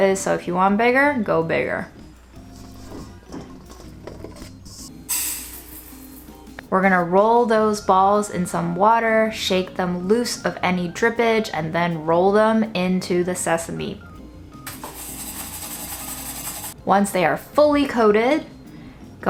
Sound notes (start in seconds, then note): 3.1 dough rattling; 5.2 seeds rattling; 15.0 seeds rattling